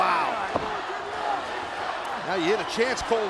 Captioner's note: crowd chanting "ref, you suck"